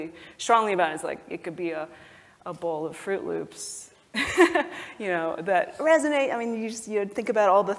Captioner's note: laugh